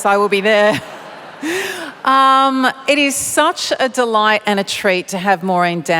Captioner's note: laughter